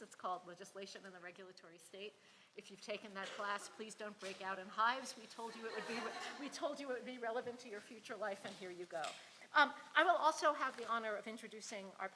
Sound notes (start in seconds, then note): 5.6 audience laughs